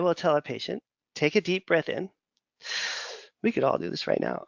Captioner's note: inhales deeply